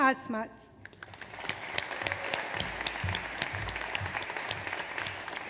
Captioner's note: audience applauds